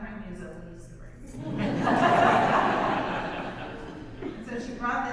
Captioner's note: audience laughs